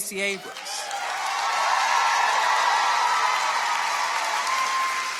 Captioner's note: audience applauding